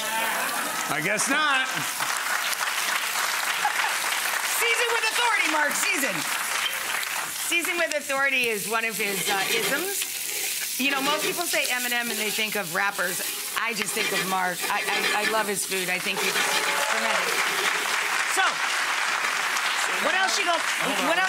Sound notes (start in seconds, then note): 1.2 audience laughing; 2.9 audience applauding; 15.9 audience applauding